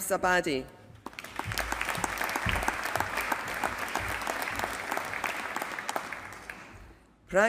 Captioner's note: applause